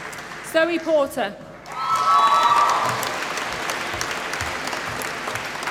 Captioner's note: applause